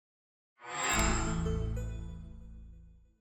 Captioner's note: chime